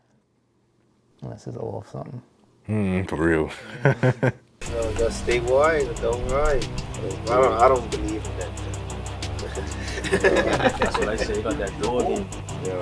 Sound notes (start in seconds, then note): 3.7 laughs; 4.6 upbeat music; 9.3 laughs